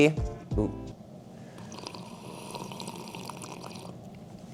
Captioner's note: slurps